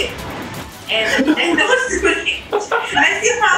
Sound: laughs

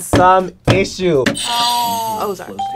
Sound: bell rings

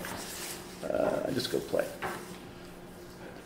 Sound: voiceover

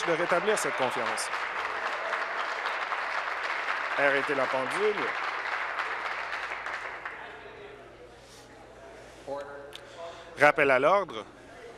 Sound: applause

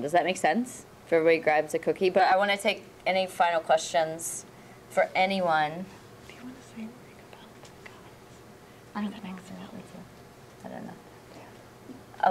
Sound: whispering

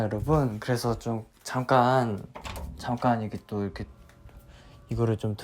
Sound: the sound of opening

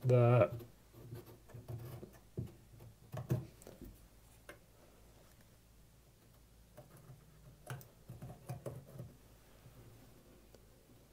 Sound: pause

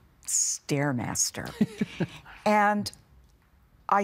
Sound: laughing

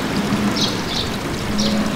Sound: water splashing

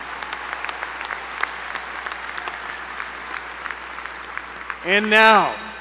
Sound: applause

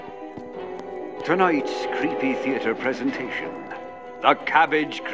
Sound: radio Announcer

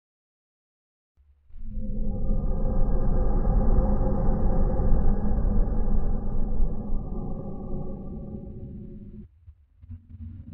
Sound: chilling sound

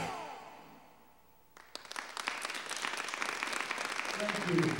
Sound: audience applauding

